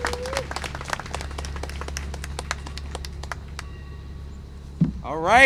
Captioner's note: applause and cheering